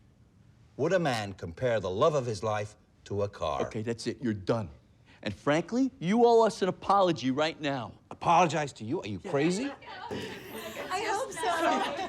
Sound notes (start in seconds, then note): 9.3 laughter